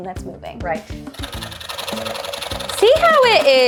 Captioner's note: saw rattling